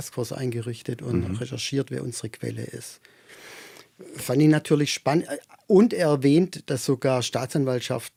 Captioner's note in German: räuspern